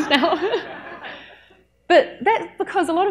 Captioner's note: audience laughs; laughs